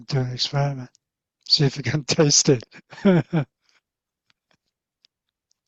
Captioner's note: chuckles